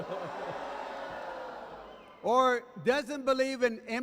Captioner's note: chuckling; jeering